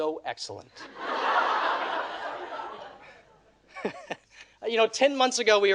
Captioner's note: audience laughing